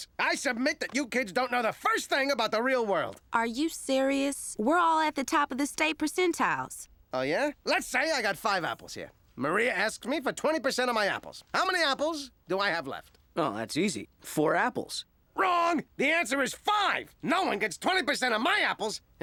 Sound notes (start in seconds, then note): none